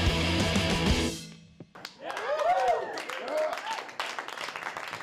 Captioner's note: cheering and applause